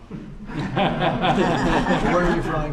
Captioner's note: laughter